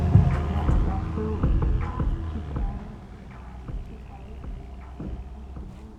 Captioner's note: car driving away; music fading away